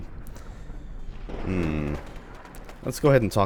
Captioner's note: thunder